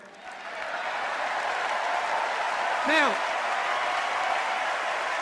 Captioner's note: cheers and applause